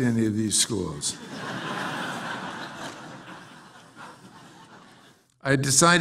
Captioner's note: laugh